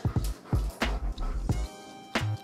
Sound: dog panting; upbeat music

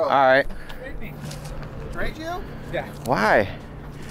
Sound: man speaks in low tones

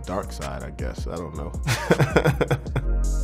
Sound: laughs; hip hop music

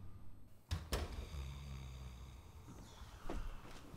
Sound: door closes

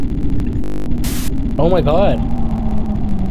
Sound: static hisses

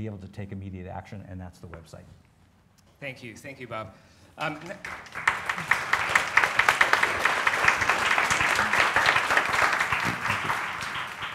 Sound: applause

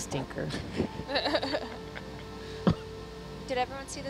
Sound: all laugh

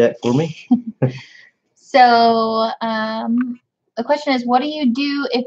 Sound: both chuckle

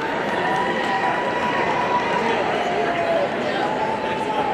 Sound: audience cheering

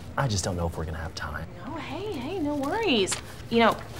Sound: none

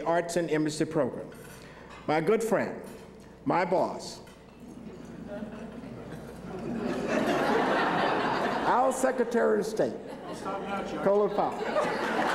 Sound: laughter

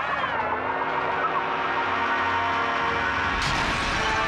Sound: engine whirring; spacecraft exploding

